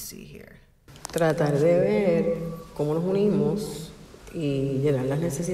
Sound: woman speaking in Spanish

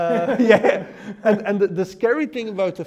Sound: both laugh

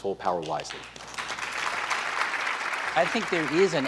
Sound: applause

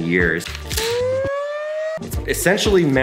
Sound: siren blaring

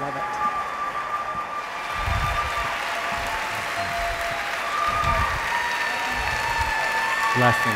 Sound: cheers and applause

